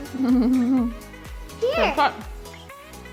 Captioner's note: giggling